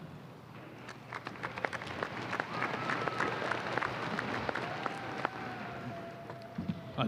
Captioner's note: applause